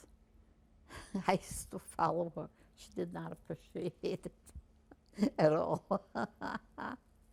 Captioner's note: laughing